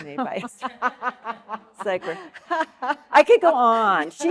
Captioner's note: audience laughing